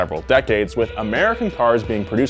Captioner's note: horn blares